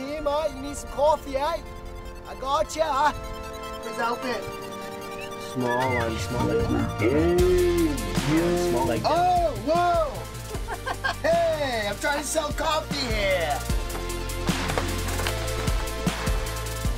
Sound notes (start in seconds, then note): 10.2 laughs; 13.9 upbeat music continues playing